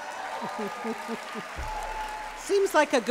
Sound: applause and cheering; chuckles

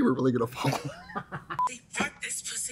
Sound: both laugh

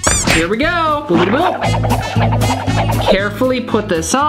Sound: fast movement sound effect

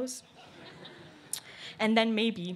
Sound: laughter

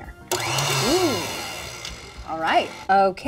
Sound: machine whirring

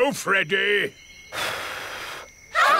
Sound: blows

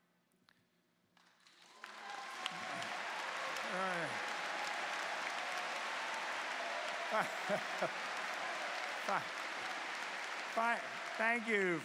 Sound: cheers and Applause

